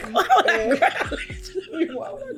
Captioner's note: laughs